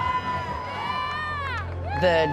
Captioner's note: crowd cheering